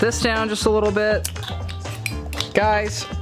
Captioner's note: cutters snipping